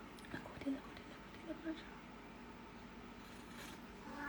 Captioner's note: soft murmurs